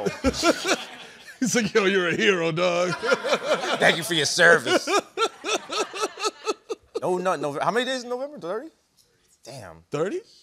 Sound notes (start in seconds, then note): 0.0 laughter; 4.4 laughter